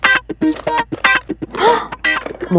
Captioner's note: Gasps